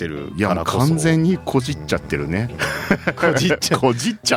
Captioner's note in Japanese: 笑い